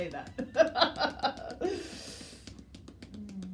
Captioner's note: laughs; hands tapping